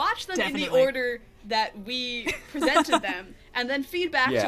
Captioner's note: laughs